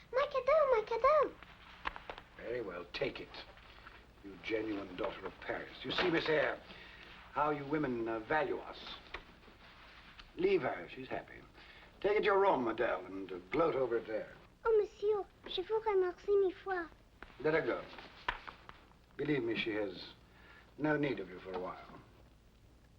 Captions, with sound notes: - My cadell! My cadell! - Very well, take it... (gruff tone) you genuine daughter of Paris. You see Miss Eyre...how you women value us. Leave her, she's happy. Take it to your room Adele, and gloat over it there. - Oh Monsieur! (speaks in French) - Let her go. Believe me, she has... no need of you for awhile.